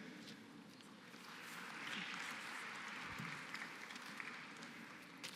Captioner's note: applause